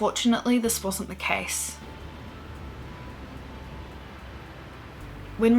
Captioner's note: sounds of waves crashing